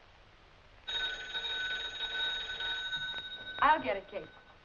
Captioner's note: phone ringing